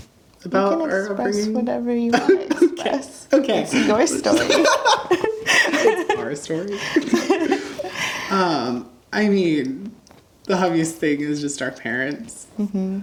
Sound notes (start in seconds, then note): 3.6 laughs